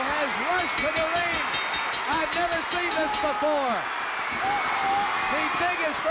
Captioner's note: bell ringing